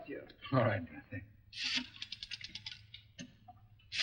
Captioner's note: phone dial clicking